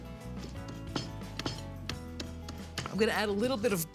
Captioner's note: pounding